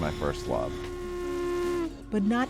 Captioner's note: steam whistle